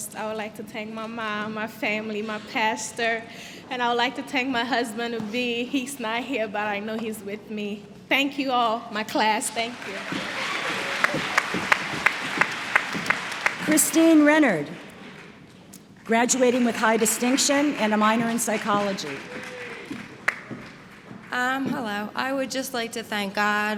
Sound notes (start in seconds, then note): 11.3 applause; 14.5 applause